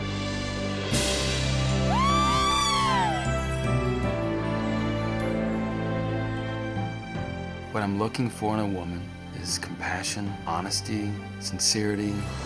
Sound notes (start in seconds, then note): 0.6 dramatic music; 1.9 audience woos